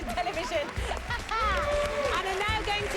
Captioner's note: laughs